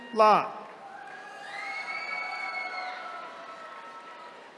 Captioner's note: attendees cheering